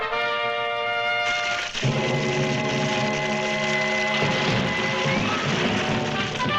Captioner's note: triumphant music; fire crackling; dramatic music; triumphant music